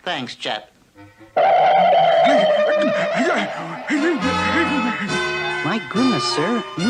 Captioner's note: Adam West Gasps